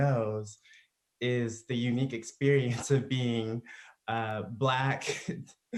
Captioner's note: laughs